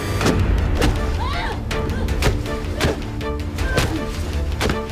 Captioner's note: dramatic music; suspenseful music; thudding; Gabriella grunts